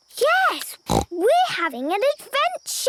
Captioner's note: snort